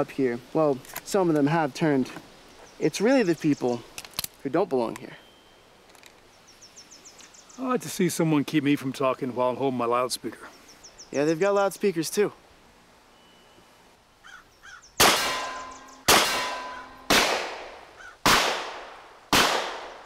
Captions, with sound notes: Well, some of them have turned. It's really the people who don't belong here. I'd like to see someone keep me from talking while I'm holding my loudspeaker. Yeah, they've got loudspeakers too. [tin dings] [gunshots blasting]